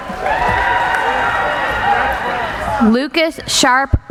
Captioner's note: cheering